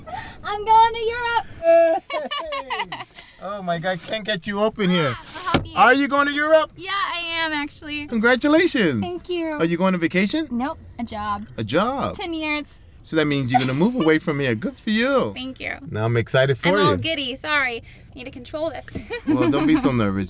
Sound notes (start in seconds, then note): 1.6 manny cheers; 1.7 emma joyfully laughs